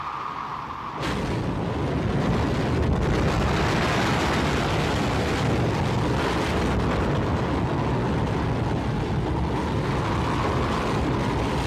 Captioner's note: wind howling; waves crashing